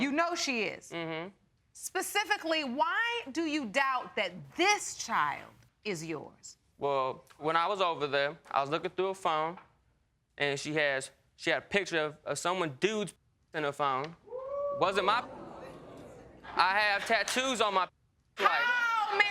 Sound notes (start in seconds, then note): 14.3 audience member whooping; 14.8 audience gasping